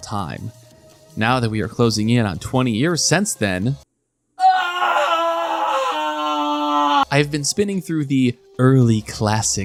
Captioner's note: aaaaaannnggggg